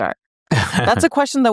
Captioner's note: laughs